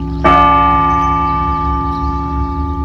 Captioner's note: bell tolls